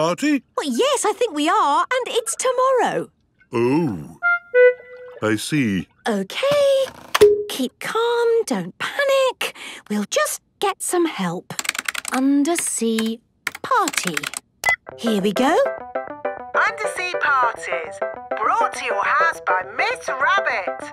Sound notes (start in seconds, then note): 14.6 beep